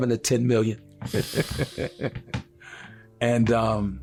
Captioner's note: chuckling